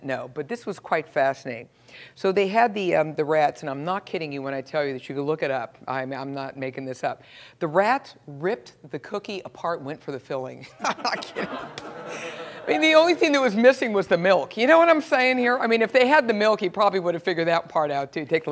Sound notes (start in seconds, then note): 10.8 laugh